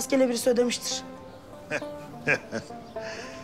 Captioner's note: laughter